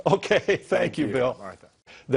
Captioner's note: chuckles